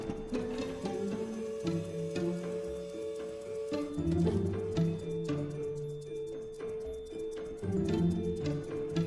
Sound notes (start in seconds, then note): 1.4 lift whirring